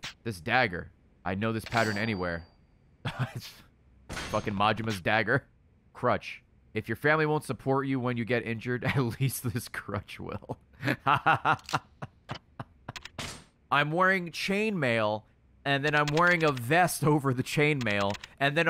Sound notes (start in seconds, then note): 3.1 laughs; 10.8 laughs